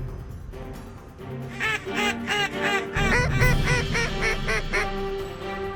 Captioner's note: duck calls